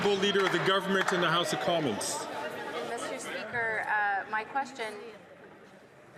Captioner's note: applause